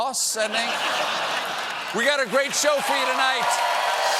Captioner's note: laughter